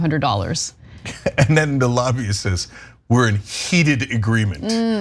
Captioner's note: laugh